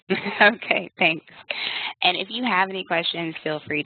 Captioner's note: laughs